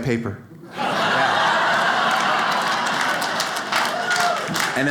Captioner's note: audience laughs